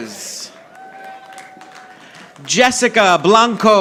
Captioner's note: audience applauding